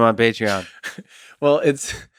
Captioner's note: Tim laughs